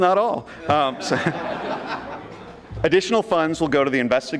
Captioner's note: audience laughing